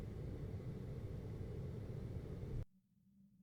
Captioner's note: air conditioning